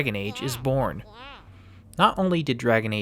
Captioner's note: baby gurgling